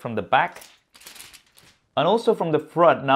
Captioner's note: rattling plastic